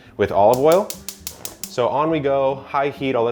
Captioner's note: cooker knob cracking